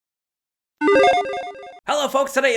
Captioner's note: musical tones beep